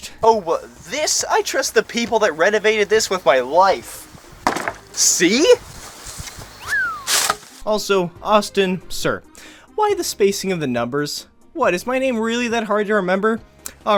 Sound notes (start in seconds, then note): 4.4 thunk